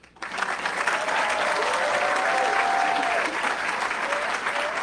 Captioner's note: audience cheering; audience clapping